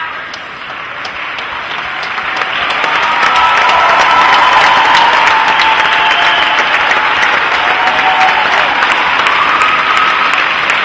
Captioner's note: loud applause and cheering